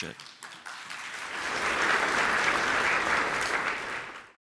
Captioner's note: applause